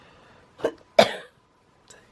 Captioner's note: cough